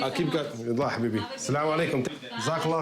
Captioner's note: non-english